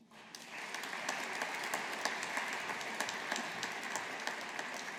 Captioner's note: audience applauding